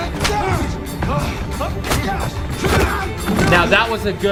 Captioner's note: men grunting